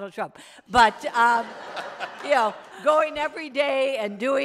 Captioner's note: everyone laughs